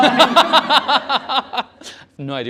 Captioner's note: laughter